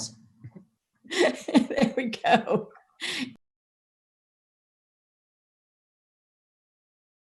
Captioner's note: laughing